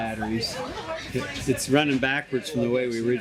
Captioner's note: background chatter